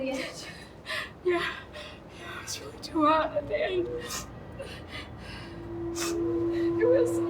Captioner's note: sobs